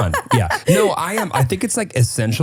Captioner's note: laughing